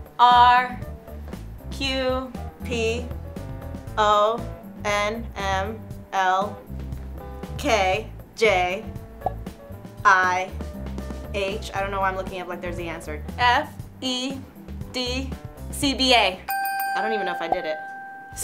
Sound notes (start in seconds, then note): 9.2 pop sound; 16.5 bell dings